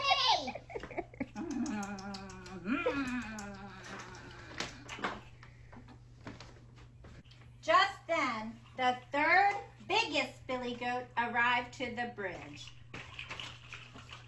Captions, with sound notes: Just then, the third, biggest billy goat arrives to the bridge. I'M BIG!!! (Chews) Phooey! I need